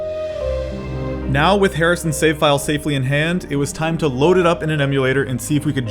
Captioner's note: emotional music; voiceover